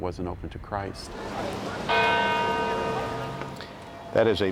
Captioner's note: bell tolling